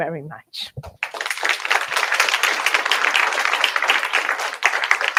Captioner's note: applause